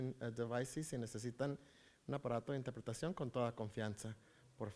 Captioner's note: foreign language